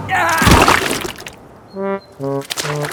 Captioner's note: groans